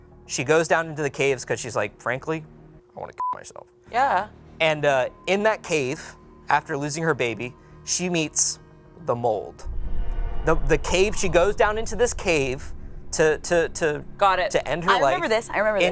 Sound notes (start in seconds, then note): 3.2 beep